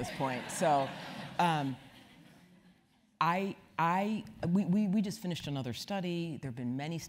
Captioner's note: laugh